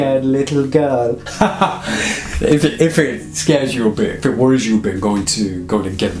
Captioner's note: laughing